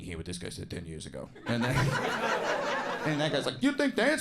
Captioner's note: audience laughing